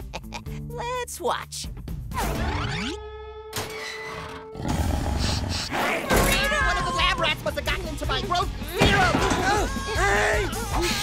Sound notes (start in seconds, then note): 4.5 growling, sniffing; 9.4 screaming